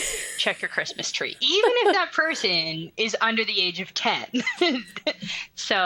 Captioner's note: laughs